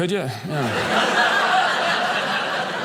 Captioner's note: audience laughing